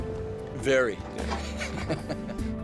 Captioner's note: chuckles